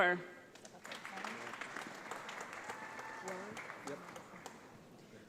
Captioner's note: audience applauds